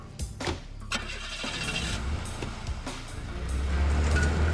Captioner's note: doors thudding; engine starts; engine revving